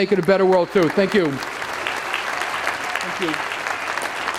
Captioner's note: cheers, applause